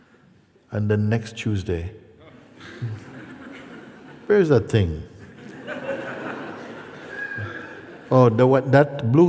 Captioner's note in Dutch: gelach